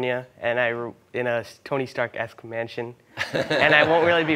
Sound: laughter

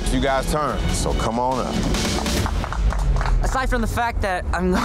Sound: contestants clapping

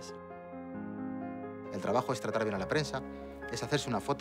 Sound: speaking Spanish

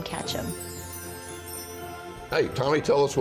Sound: transition chiming

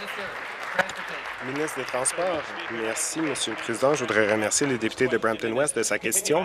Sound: applause

